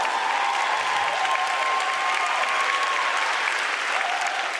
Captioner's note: audience continues to cheer